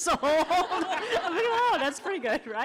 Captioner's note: laughing